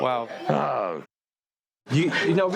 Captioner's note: muted